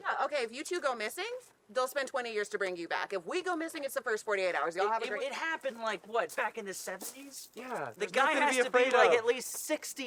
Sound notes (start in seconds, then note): none